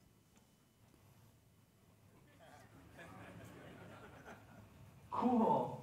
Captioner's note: audience laughing